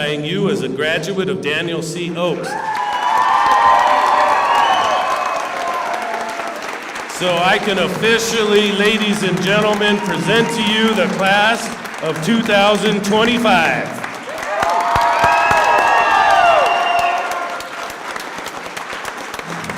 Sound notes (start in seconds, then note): 9.5 cheers and applause; 19.3 cheers and applause